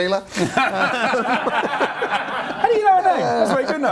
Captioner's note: laughs